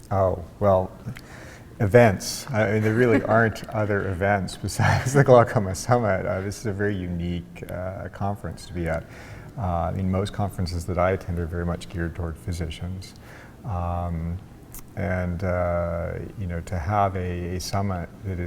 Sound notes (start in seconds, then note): 2.5 chuckling; 2.6 laughs